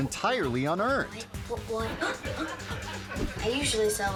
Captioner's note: girl rhythmic singing; audience laughing